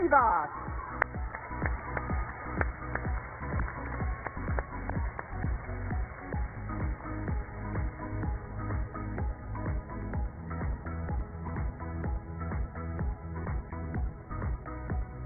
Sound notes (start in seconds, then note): 0.9 applause; 4.6 cheers and applause